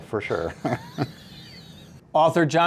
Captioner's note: laughing